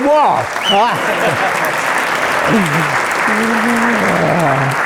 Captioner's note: audience laughing; applause